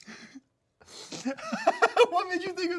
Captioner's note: laughs